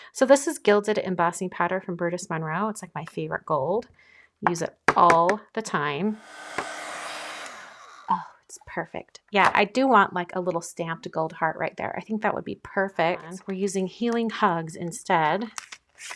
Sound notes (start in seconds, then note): 6.1 dryer whooshing; 15.4 paper crinkling